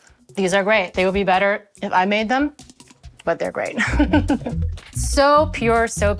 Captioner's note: laughs